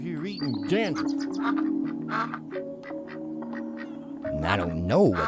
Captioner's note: ducks quacking